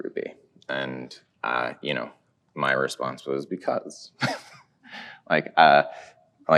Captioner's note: chuckles